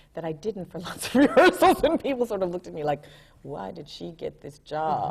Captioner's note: laughs